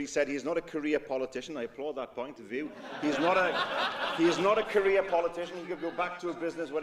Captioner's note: laughter